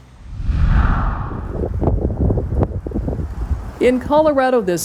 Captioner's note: wind rustling